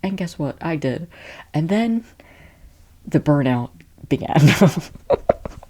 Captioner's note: laughing